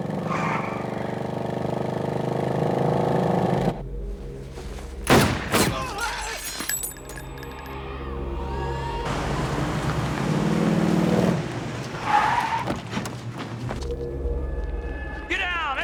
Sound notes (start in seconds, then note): 0.0 tires squealing; 5.0 firing; 5.7 man yelping